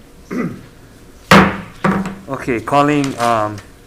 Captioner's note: mallet thudding